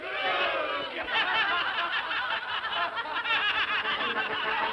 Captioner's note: all laugh; whimsical music